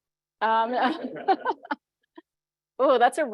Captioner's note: group laughs